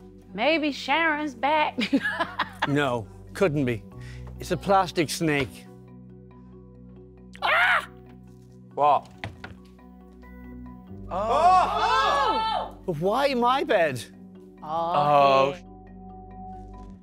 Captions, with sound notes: Maybe Sharon's back. [Laughing] No, couldn't be. It's a plastic snake. [Screaming] What? [Screaming] Why my bed? Oh s**t!